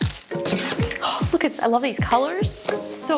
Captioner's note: wrapping crinkling; knife scraps box